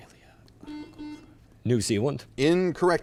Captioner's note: buzzer chimes